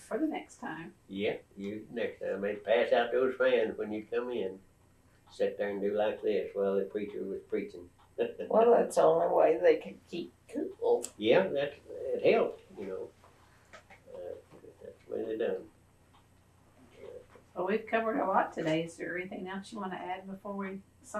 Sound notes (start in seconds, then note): 5.4 laughs